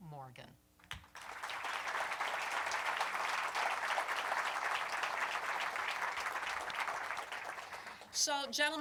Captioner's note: applause